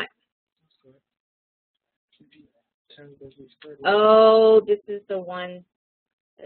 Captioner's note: background talking